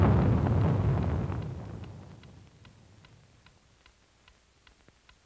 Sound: clock ticking

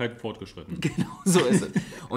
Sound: laughs

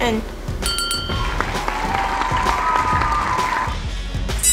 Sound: applause

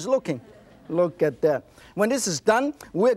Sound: audience laughs

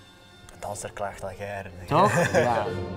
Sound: lacht

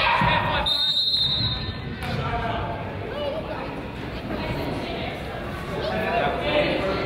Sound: whistle blows; coach yells

